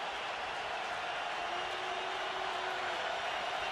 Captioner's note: crowd cheering